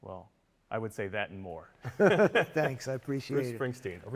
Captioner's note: laughs